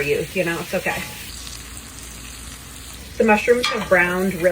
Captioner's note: mushrooms sizzling